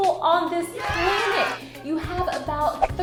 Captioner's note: people cheering